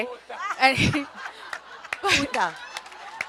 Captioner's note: everyone laughs